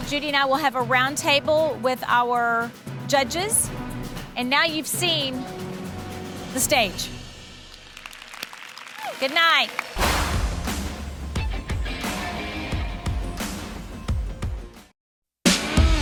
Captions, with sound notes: Judy and I will have a round table with our judges. And now you've seen the stage. (group clapping) Good night. (rock music)